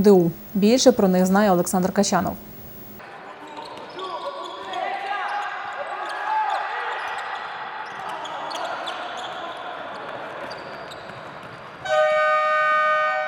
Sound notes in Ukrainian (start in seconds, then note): 4.1 крики гравців та тренерів; 11.8 гудок